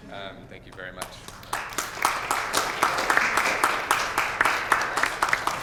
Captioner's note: applause